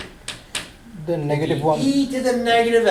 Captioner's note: voiceover